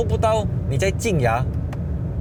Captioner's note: upshifting